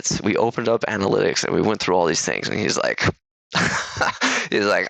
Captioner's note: laughs